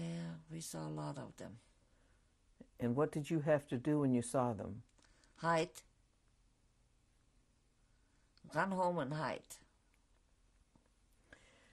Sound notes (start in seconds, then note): 5.6 pauses for 3 seconds